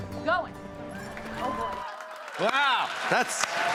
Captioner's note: cheers and applause